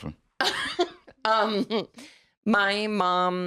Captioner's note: laughs